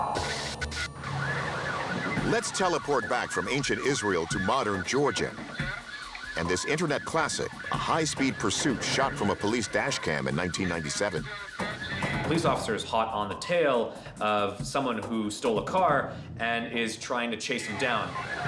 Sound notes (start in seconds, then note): 0.7 sirens wailing